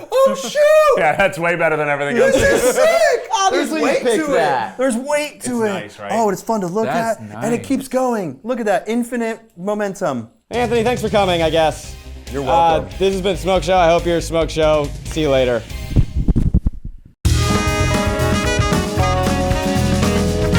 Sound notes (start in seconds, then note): 15.9 mic rumbling; 17.2 upbeat jazz music